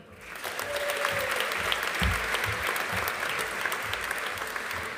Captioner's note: audience applauding